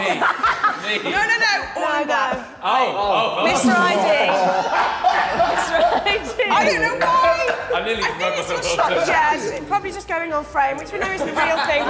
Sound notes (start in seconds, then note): 3.4 Sidemen laughing